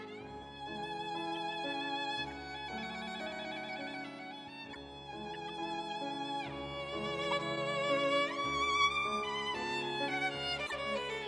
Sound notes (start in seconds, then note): none